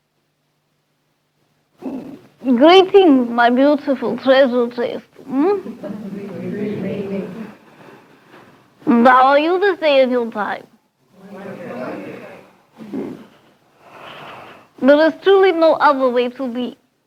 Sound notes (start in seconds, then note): 5.6 laughter